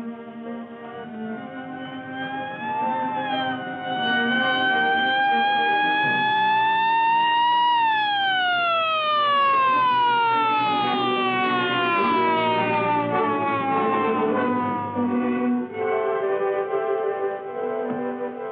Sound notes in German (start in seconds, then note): 1.2 sirenen